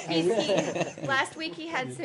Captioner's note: laughter